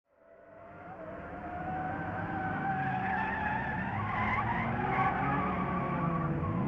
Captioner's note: engines rumbling; tires screeching